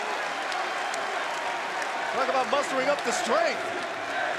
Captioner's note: crowd cheering